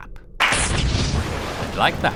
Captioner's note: clap, splutter of electricity and flame